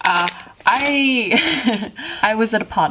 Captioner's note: laughs